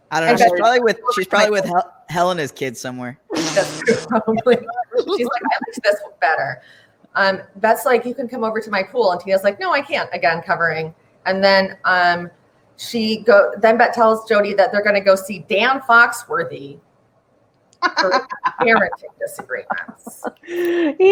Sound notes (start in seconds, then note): 3.3 laughs; 5.3 talking and laughing over each other; 17.8 laughs